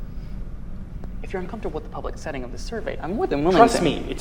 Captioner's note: lower voice